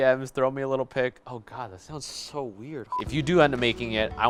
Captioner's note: beep